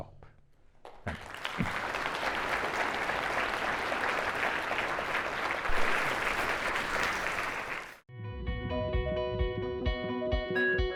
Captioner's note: applause